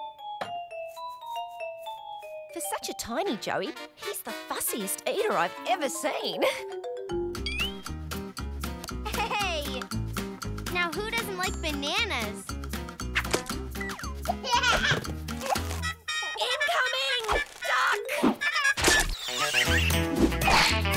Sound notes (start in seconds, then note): 10.5 laughing; 15.4 chomping; 18.4 giggling